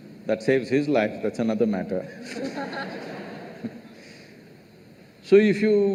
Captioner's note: laughter